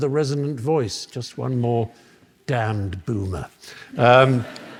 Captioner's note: laughter